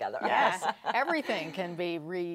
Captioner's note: laughs